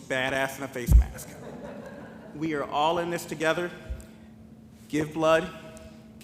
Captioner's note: laughter